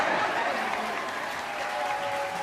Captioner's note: congregation clapping